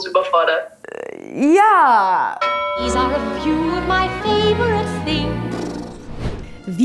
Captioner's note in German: Gong